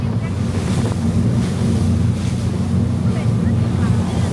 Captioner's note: sound of large waves crashing against the boat